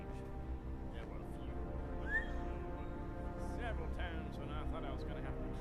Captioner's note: Tim whistling